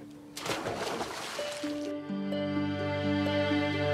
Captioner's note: water splashing; soft music